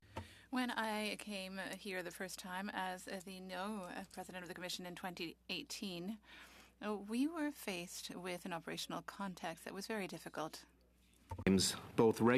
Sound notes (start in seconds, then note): 6.3 speaking French